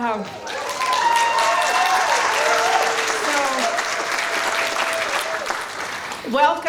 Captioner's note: cheering